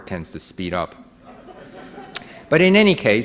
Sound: audience laughing

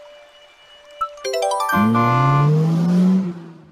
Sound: horn and acceleration

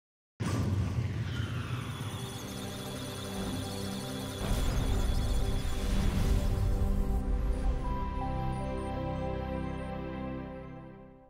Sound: electronic sounds of data

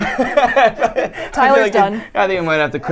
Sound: laughs

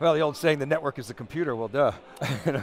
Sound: laughter

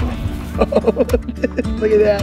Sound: Rocky laughs

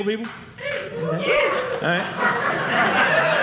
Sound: audience member cheering; audience laughing

